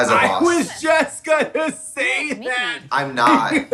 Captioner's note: chuckles